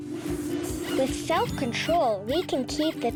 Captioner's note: rabbit squeaking